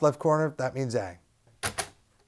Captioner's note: click